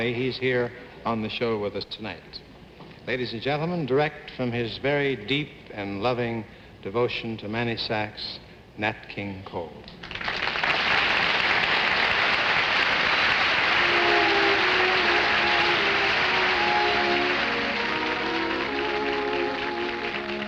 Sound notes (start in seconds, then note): 10.4 audience applauding; 15.5 upbeat music